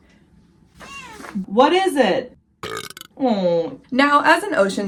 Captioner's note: louder meow; meow; cat burps